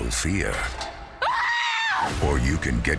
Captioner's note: screaming